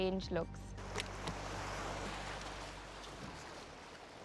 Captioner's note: waves swishing